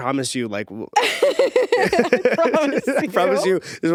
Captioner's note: both laughing